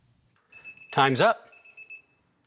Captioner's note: electronic beeps